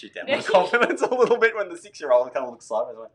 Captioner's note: both laughing